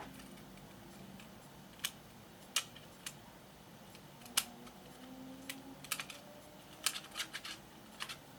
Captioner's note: plastic clicks